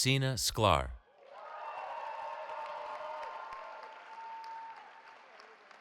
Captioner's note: cheering